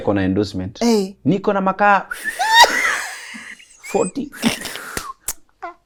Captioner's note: whistles